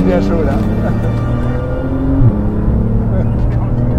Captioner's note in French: Vrombissement des moteurs